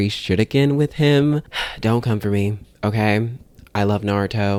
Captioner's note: sigh